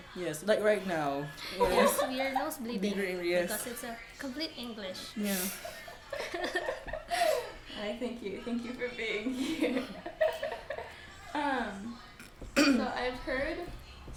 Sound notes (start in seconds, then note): 5.4 laughs